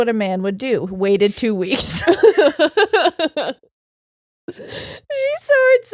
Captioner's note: laughing